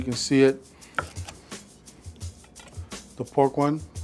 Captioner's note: egg roll crunching